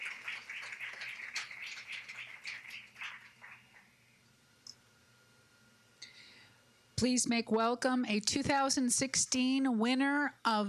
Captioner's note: applause